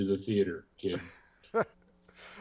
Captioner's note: laughs